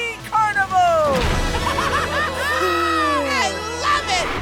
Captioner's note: laughing